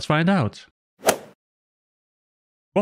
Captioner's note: golf ball hit sound effect